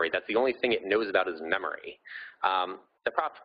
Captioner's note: none